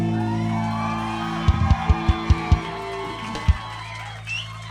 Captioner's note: audience cheering